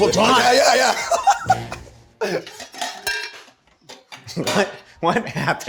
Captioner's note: laughs